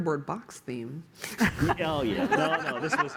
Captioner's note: laughter